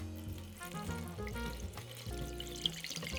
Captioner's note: liquid pouring